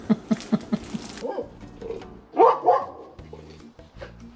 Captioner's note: laughing; dog barking